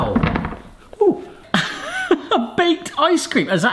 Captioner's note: laughs